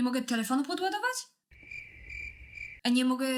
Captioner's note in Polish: cykanie owadów